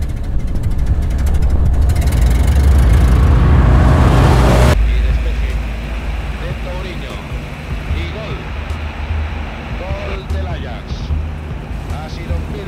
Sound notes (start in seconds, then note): 5.1 radio announcer speaking in foreign language